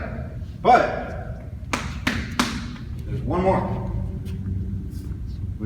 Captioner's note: 3 slaps